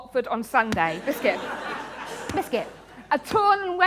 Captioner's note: laughter